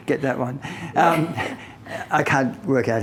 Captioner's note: both laughing